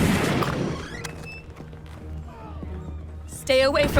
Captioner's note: gunfire pops